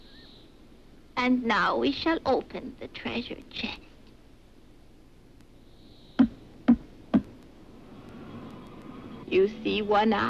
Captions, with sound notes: - And now we shall open the treasure chest. (cane thuds) (wind whistles) You see, One Eye?